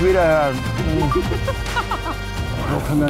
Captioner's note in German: lacht